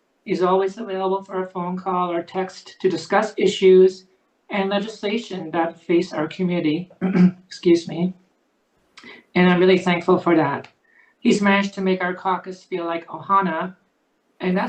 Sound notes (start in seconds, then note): 7.0 clears throat; 13.5 speaks Hawaiian